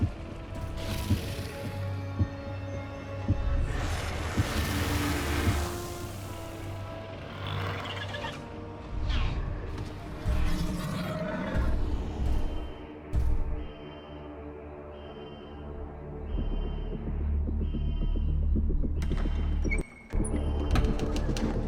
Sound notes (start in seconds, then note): 3.5 dinosaur growling; 7.2 dramatic music; 10.7 dinosaur growling; 13.9 dramatic music; 18.2 alarm blaring